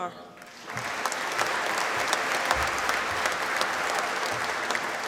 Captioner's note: applause